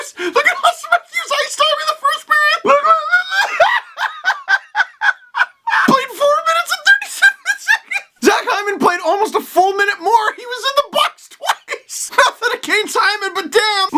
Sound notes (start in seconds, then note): 2.9 laughs